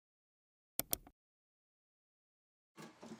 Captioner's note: mouse click